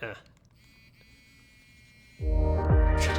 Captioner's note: vibrates